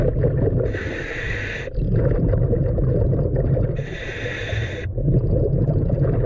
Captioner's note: breathing through regulator